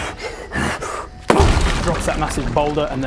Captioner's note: boom!